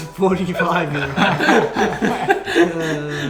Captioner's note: laughs